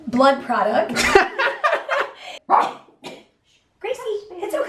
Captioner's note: laughter